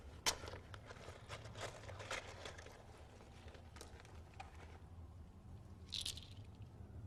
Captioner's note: rummage